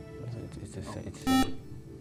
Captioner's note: buzzer